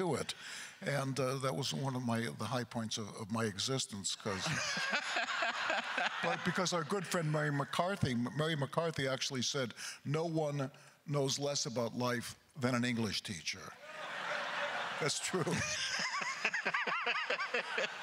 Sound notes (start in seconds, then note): 4.0 laughing; 13.8 crowd laughter; 16.8 laughing